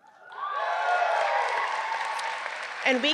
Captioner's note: audience cheering